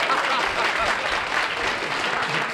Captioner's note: laughter